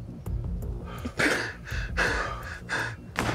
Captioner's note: panting; gunshot